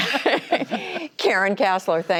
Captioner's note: laughter